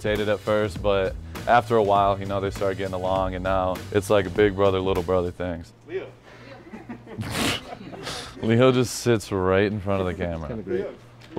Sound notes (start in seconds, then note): 6.4 all laughing